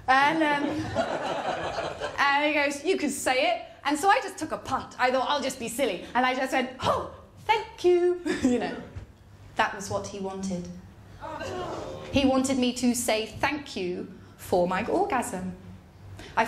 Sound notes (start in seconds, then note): 11.2 audience groan